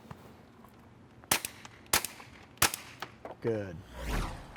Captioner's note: gun bangs